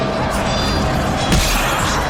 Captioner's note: chunk